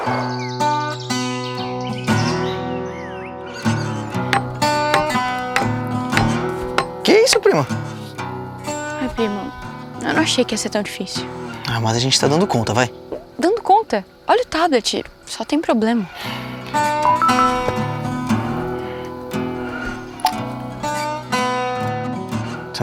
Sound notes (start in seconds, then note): 4.3 hammering; 17.0 notification